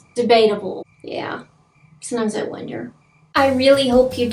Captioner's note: record scratches; crickets